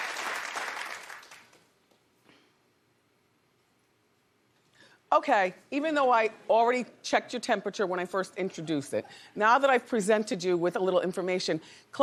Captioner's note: applause